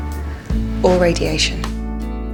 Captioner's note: voiceover